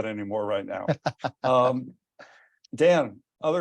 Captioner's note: laughs